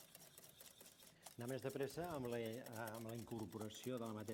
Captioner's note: non-english speech